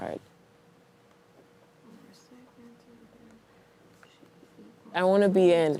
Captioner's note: speaking quietly to herself